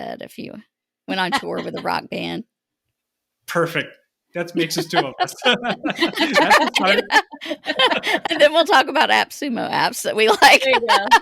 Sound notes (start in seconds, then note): 6.1 all laughing